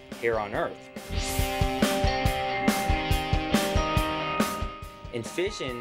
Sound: sound Effects

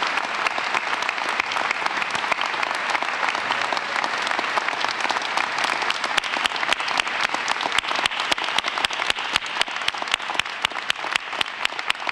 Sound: applause

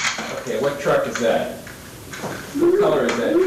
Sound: babbles

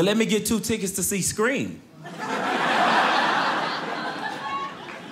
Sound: audience laughing; audience applauding

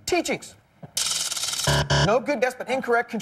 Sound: buzzer

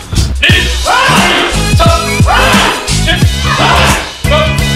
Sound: kiai yelling

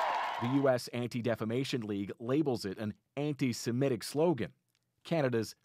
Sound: cheers and Applause

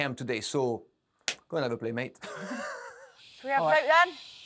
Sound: laughs

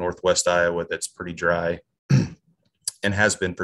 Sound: clears throat

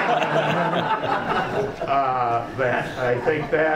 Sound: laughing

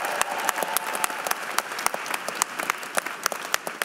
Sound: applause

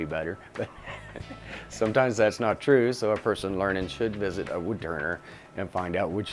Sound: laughing

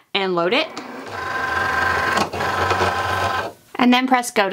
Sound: machine whirring

